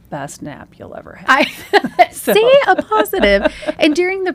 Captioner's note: laughs